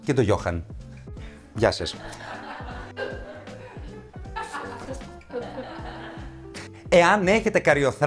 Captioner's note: laughs from the team